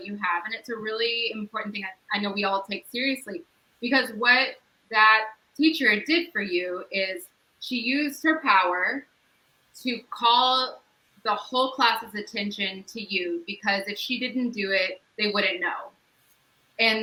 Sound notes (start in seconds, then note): none